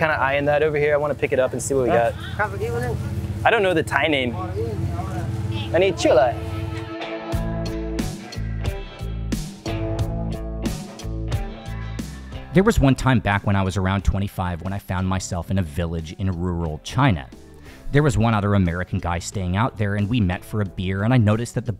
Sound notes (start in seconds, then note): 9.1 speaking Thai